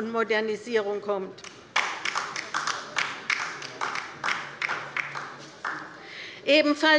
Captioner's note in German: Beifall bei der LINKEN